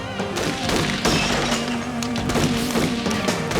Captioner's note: gun blasts